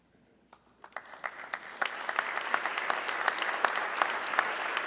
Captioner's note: audience clapping